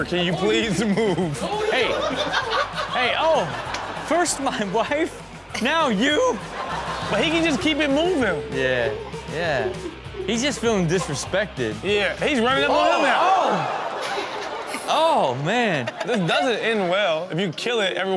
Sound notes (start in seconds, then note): 1.8 audience laughs; 1.8 background laughter; 5.6 audience laughs; 12.7 Chanel screams; 12.7 audience gasps